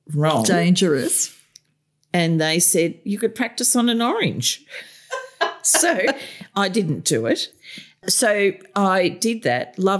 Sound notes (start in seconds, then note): 4.8 laughter